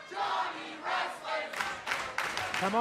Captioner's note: fans chanting